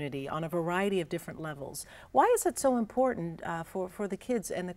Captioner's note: none